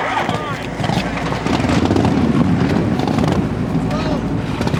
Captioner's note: motorcycles rev